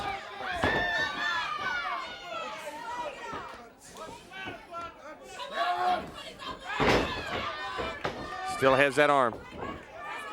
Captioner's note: crowd chatter